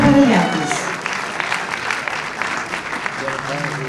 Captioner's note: audience applauds